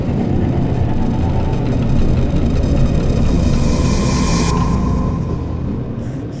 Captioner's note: alien ship leaves